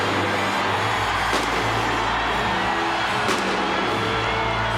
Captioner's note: fireworks pop